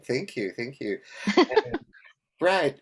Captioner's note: laughs